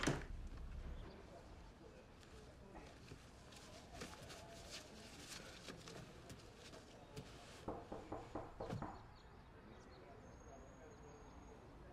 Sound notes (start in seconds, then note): 7.7 there's a knock at the door